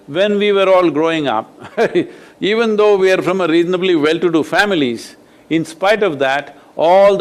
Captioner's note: laughs